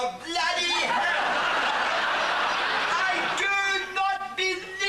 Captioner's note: audience laughs